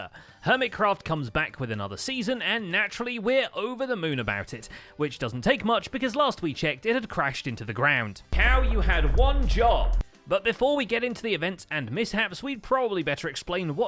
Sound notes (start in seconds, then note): 8.4 slow motion explosion